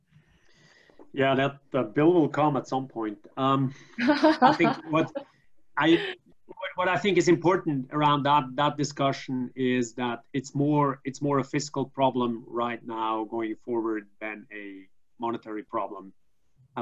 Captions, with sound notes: - Yeah. That the bill will come at some point. (laughing) What I think is important around that discussion, is that, it's more a fiscal problem right now, going forward than a monetary problem.